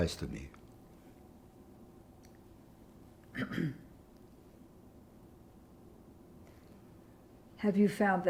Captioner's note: pauses 6 seconds